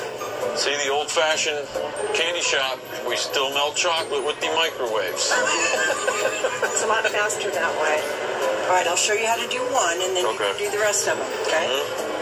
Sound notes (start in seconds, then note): 5.3 laughter